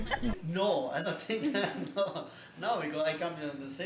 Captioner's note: laughs